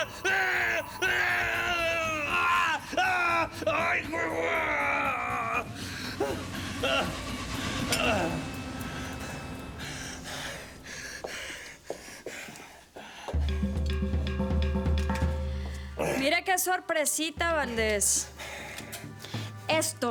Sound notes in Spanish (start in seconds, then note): 4.2 Gemidos; 4.2 Gritos; 10.2 Ruido metálico